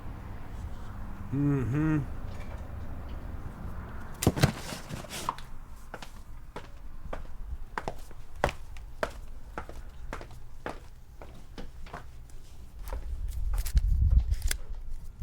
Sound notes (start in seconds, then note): 5.0 footsteps tapping; 12.2 money rustling